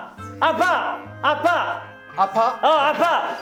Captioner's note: expressing pain